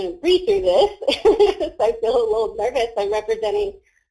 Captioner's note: laughs